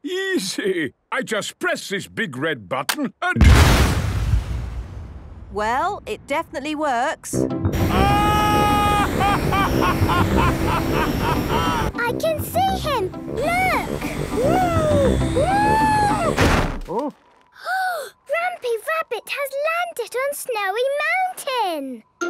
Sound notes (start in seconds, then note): 7.8 excited screaming, laughing; 16.1 snowy crashing